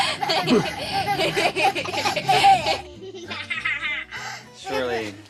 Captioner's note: kids laughing